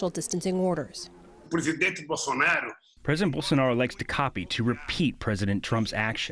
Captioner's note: through translator